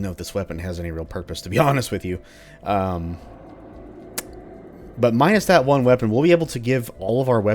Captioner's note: chuckles